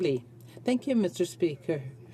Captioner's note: speaking French